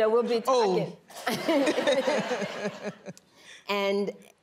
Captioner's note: laughing